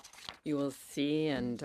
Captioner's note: speaking French